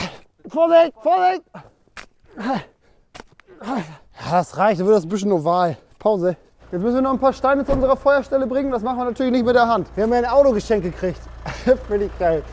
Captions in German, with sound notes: Vorsicht! Vorsicht! *Schnaufen* Das reicht, dann wird es 'n bisschen oval. Wir müssen Steine zur Feuerstelle bringen. Das machen wir nicht mit der Hand. Wir haben 'n Auto geschenkt gekriegt.